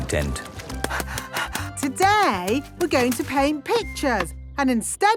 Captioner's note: panting